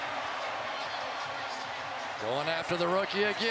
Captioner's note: pa announcement